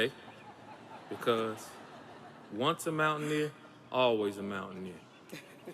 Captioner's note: audience laughs